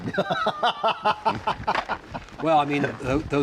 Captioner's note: laughs